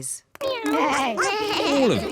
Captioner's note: all making animal sounds